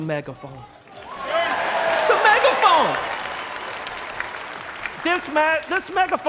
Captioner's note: applause